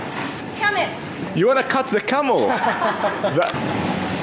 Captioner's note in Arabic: ضحك